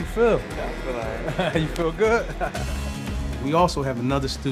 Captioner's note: laughing